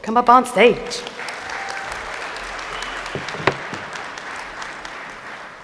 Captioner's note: applause